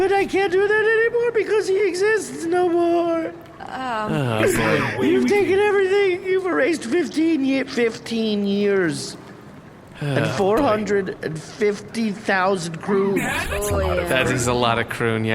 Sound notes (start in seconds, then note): 4.0 the crew make unhappy noises; 7.9 no longer crying, audibly annoyed